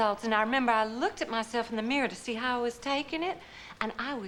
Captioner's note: gasps